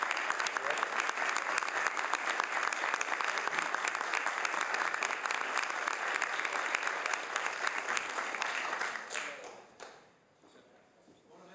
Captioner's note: some Applause